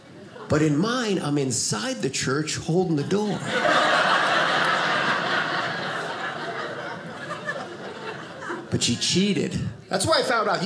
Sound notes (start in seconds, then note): 3.0 audience laughing